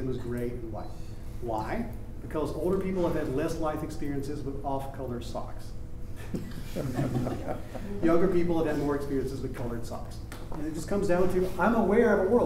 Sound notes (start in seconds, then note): 6.6 audience laughing